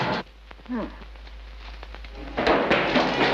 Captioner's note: mother moans; dramatic music